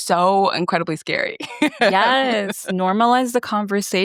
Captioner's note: laughs